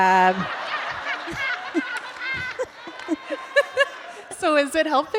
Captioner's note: laughter